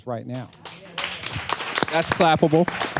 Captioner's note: applause